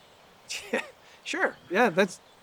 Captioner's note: chuckles